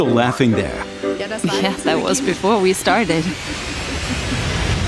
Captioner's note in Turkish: Gülüyor